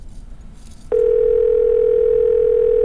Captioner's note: Phone ringing